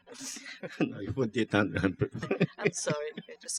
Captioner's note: laughter; speaking french